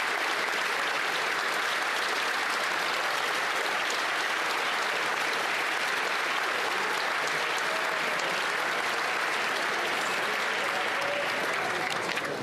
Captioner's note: applause